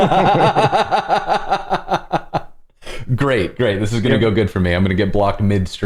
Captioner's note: laughter